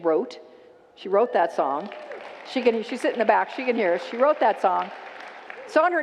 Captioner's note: congregants applaud